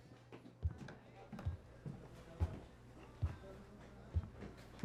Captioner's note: footsteps ascending